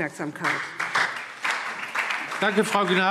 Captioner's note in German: Beifall SPD